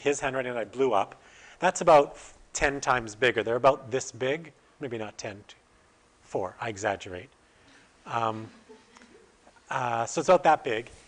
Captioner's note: audience: Laughter